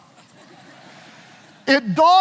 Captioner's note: audience laughing